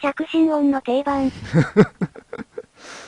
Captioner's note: laughs